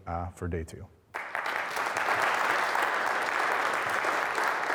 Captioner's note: audience claps